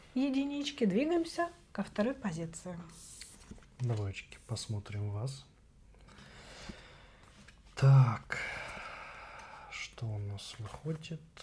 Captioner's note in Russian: вздыхает